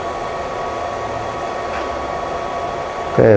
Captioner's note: printer machine noise